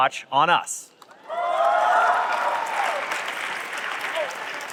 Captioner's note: cheering